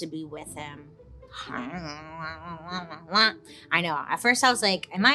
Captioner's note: vocalizing gibberish